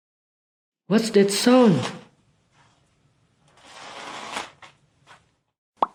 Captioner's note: sound of something being dragged across the floor